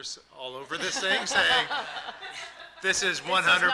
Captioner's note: all laughing